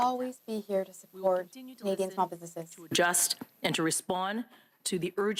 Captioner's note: speaking French